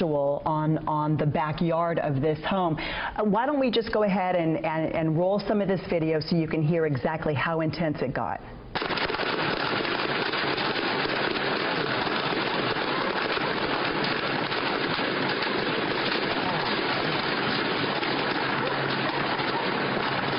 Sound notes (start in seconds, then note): 17.9 gunshots